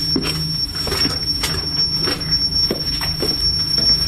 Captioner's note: beeping